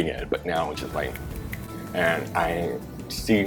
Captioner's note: Russell snaps